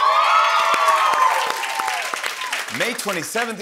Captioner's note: cheering and applause